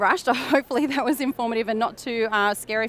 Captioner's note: chuckles